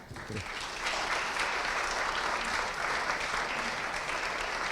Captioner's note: audience applauding